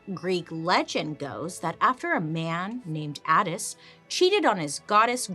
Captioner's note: none